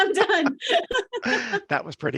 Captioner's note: both laugh